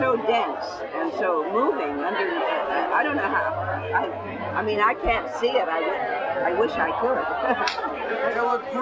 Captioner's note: laughs